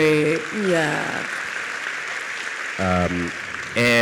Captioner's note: audience applauds